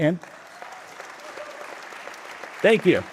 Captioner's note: audience applauding